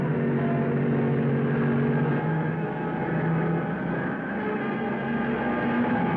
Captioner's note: cars revving; dramatic music